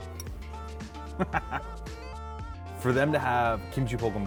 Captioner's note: laughs